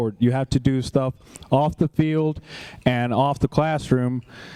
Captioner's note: none